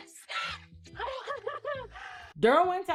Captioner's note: laughing